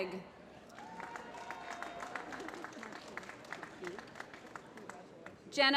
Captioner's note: applause